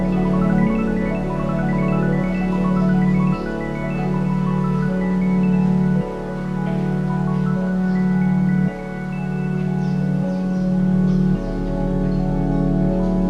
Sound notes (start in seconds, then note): 10.1 birds calling